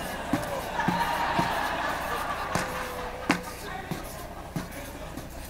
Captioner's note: audience laughing